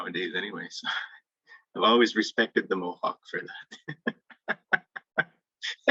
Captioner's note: laughing